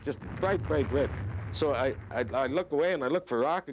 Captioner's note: booming